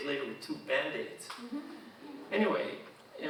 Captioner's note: audience chuckling